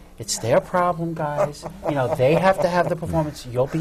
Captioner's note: laughs